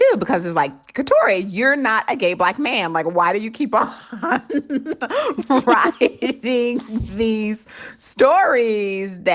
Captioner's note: laughter